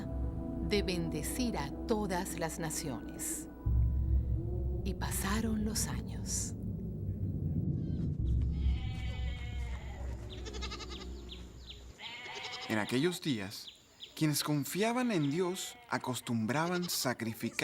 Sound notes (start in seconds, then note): 8.2 oveja balando